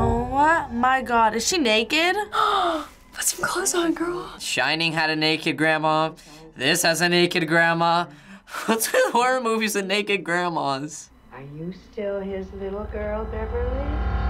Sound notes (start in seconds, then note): 2.4 gasps